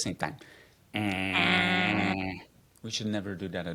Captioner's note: both grunts